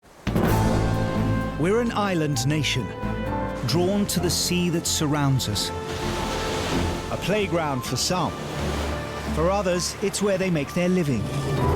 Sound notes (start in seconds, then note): 0.1 upbeat music; 5.1 waves whooshing